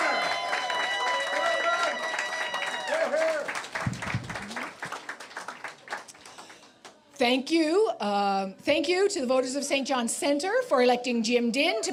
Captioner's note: cheers and Applause